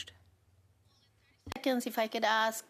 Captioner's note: speaking French